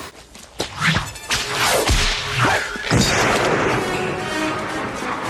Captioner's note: gunshots firing; whip cracking; dramatic music